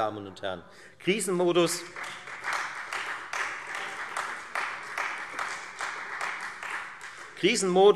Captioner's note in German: Beifall Freie Demokraten